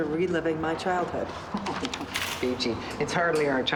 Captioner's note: laughs